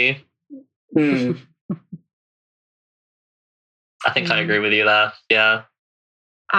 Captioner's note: laughs